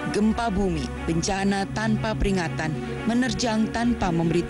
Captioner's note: non-english speech